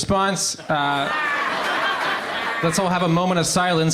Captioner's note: crowd laughs